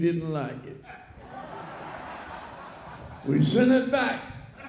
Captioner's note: audience laughs